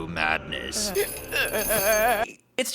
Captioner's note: Subaru whimpering